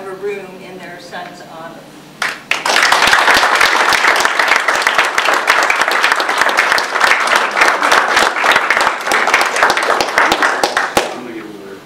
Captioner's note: audience applause